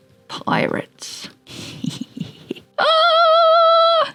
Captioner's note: snickering